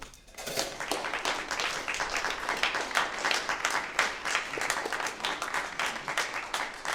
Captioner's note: applause